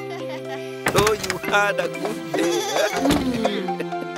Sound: children laughing; bleating

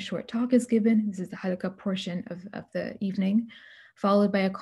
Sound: speaking arabic

